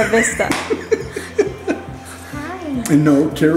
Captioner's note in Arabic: يضحك